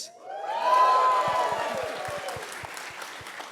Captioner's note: cheers